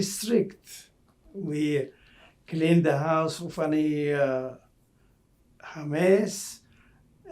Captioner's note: non-english